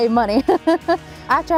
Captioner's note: laughing